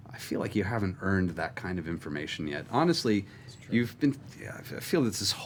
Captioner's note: sighs